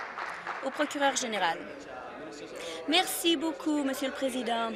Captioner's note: applause